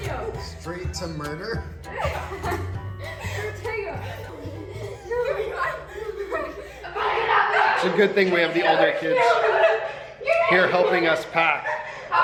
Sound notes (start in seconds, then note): 3.8 kids laughing